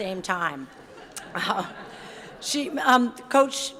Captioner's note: audience laughs